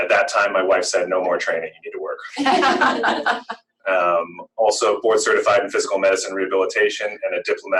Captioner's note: laughter